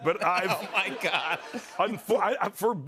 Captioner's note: laughing